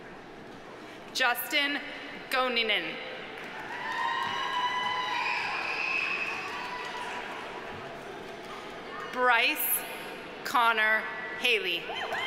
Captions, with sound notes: Justin Goninen. (audience applauding) (audience cheering) Bryce Conner Hailey.